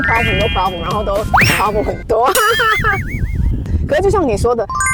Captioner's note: laughter